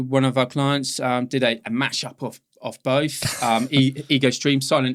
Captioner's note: laughing